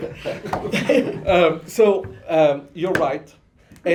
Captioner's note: laughter